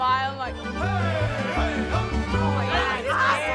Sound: male performers cheering

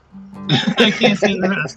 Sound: laughing

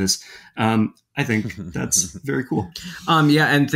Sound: chuckling

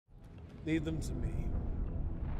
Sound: in English

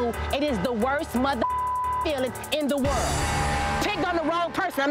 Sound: beep

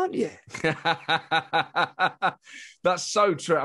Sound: laughing

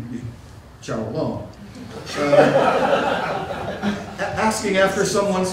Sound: laughter

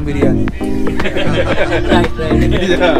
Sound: laugh

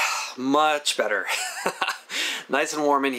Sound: laughs

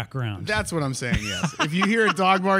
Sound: laughs

